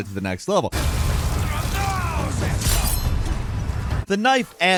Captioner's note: dramatic music; knife clanging